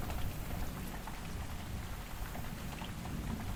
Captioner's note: thunder & rain continues